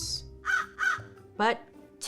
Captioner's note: crow cawing